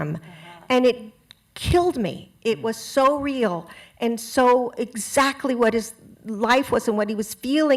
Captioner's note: none